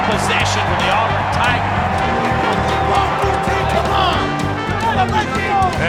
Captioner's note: indistinct shouting